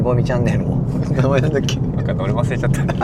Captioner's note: laughs